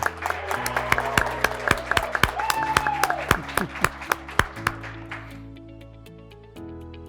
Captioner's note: graduates cheering; graduates clapping